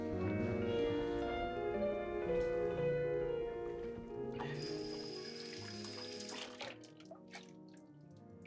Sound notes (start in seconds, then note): 4.4 faucet running